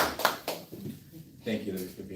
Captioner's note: applause